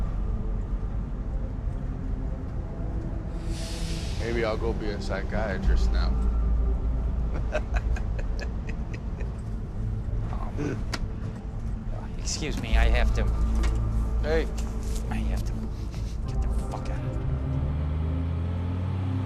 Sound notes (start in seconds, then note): 7.2 passenger chuckling